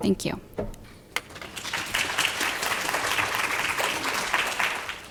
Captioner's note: applause